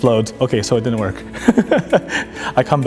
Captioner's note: laughs